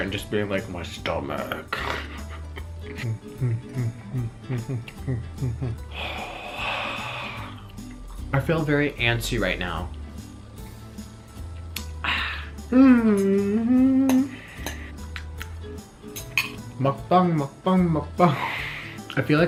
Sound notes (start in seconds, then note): 3.4 humming; 12.6 humming